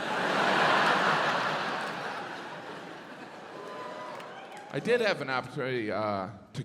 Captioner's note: audience laughs